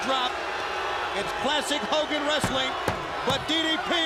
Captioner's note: crowd cheering